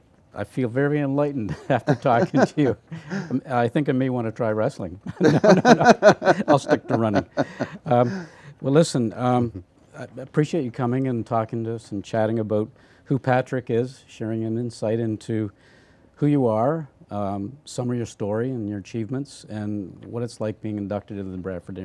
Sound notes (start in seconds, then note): 5.0 laughter